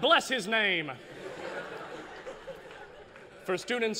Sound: laughter

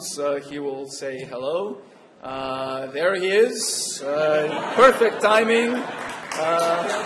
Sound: laughter

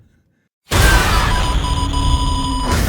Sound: beeping rapidly

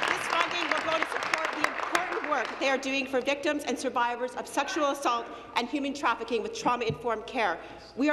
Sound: applause

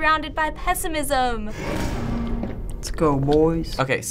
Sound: door creaks

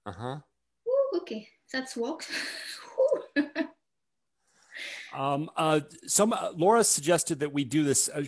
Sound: chuckles

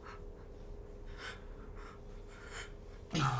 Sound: crying

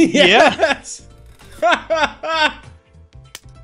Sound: laughs

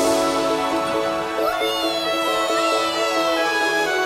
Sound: cheering

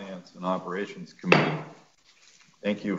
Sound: gavel hitting

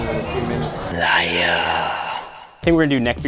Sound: voiceover

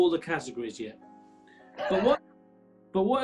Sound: sniggering

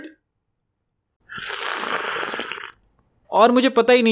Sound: slurps

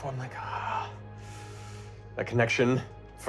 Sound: sighs

